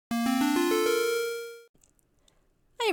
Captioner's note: beeping video game style synth noises